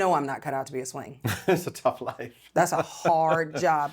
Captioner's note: chuckles